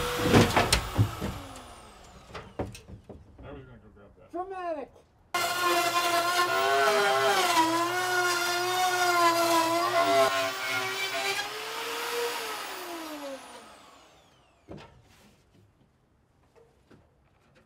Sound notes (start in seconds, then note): 0.2 wood thuds to ground; 5.9 saw whirs